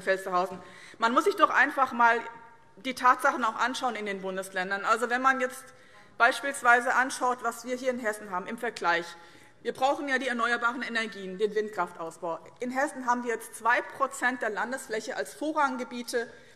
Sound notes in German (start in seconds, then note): none